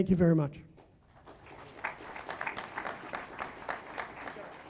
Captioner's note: applause